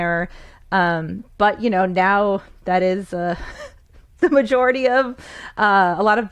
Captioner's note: chuckles